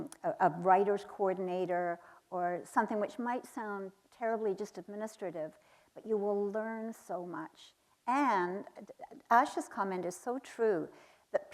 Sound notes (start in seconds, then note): none